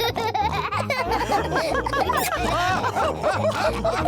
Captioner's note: all laugh; both giggle